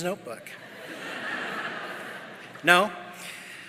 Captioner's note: audience laughing